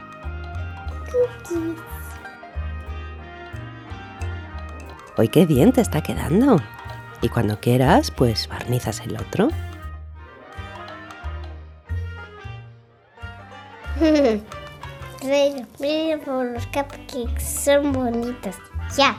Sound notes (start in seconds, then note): 1.3 whispers; 14.0 laugh